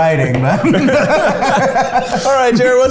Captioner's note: laughing